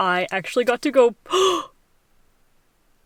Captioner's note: gasp